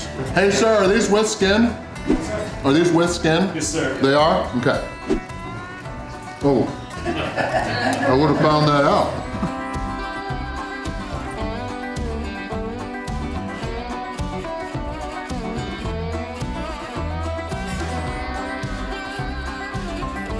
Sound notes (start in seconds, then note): 8.5 crowd laughter